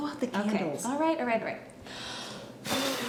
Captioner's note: blows